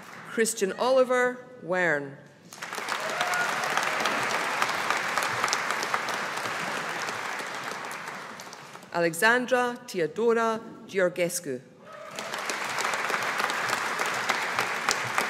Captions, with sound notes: Christian-Oliver Werne. (AUDIENCE APPLAUDING) Alexandra-Teodora Georgescu. (AUDIENCE APPLAUDING)